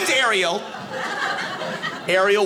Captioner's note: audience laughing